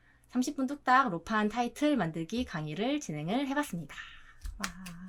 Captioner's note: clap Clap Clap